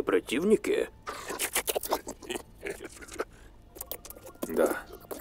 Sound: laughs

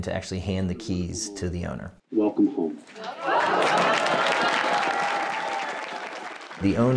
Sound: audience applauding

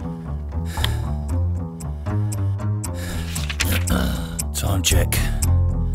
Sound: breathing heavily, out of breath

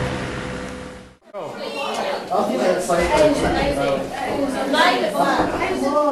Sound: conversation in background

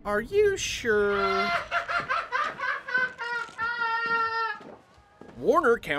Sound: Joker laugh

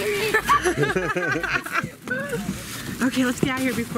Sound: people laughing

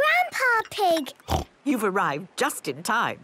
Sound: none

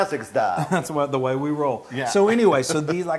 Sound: laugh

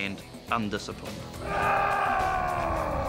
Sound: roaring

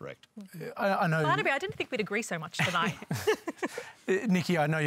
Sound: laughs

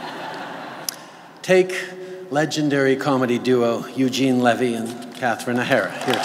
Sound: laughter

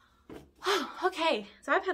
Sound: sigh

